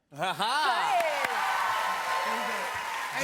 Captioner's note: cheers and applause